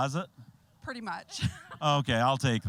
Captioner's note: laughing